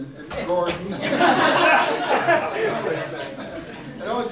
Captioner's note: everyone laughs